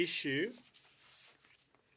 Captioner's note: speaking French